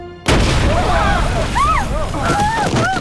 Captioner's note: woman screaming